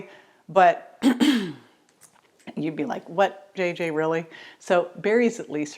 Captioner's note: clearing throat